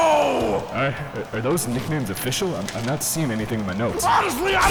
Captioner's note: rummaging through papers